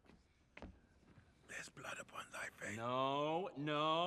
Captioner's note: whispering